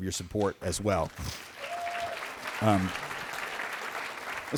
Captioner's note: applause